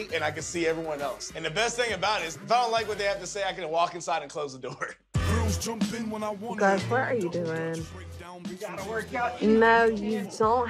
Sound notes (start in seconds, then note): 4.6 chuckles; 5.2 rap music